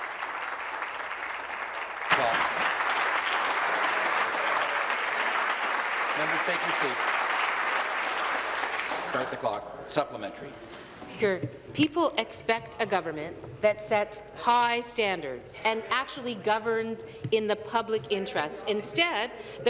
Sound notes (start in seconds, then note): 2.6 applause